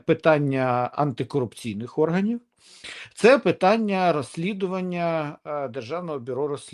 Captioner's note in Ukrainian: сопіння